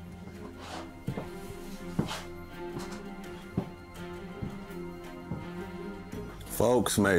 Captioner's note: tense Western music; footsteps thudding